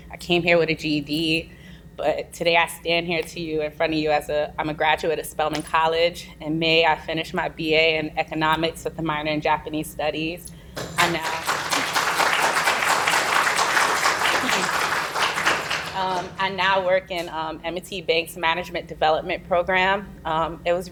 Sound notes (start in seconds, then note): 10.9 applause